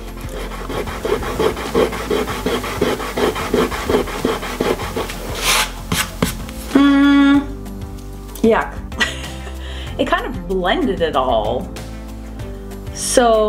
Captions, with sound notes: (eraser rubbing) (palm rubs) Mm. Yup. (laughs) It kind of blended it all.